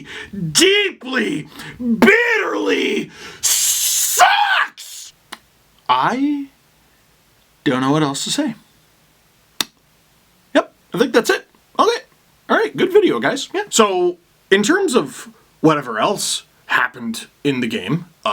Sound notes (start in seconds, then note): 9.2 smack